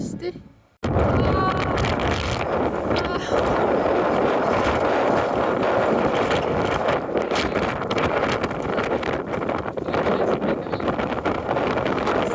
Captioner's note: unintelligible wind noises